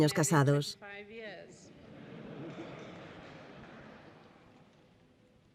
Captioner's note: people laughing